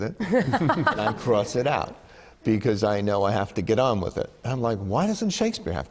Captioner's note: laughter